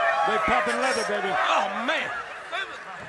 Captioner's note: crowd cheering